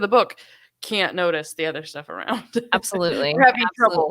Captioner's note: laughing